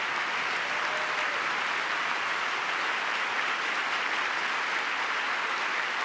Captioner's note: cheering; applause